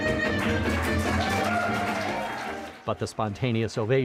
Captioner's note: audience clapping and cheering